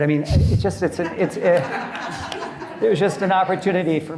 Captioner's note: audience laughing